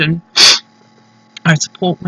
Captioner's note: sniffle